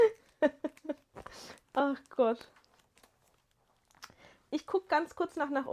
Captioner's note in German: gelächter